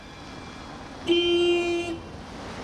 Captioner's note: blares horn